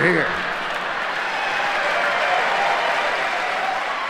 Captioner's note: audience laughing